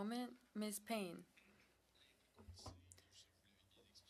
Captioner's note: speaking French